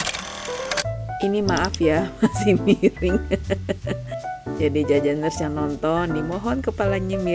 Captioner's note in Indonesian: tertawa